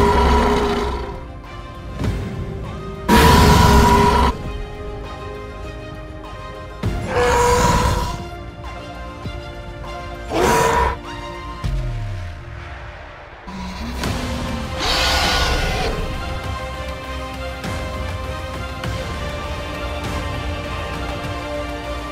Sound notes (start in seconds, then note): 0.0 Scorpius roaring; 4.1 intense music; 8.1 Scorpius roaring; 12.9 intense music